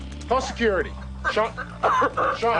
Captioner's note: Sean still coughing